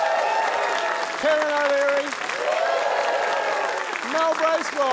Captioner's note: cheering, applause